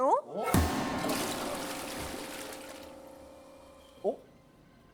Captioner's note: toilet flushing without being touched